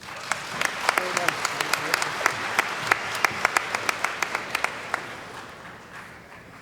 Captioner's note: applause